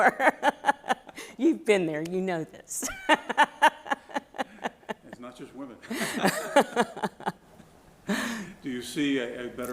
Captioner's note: laughter